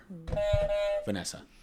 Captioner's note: honking sound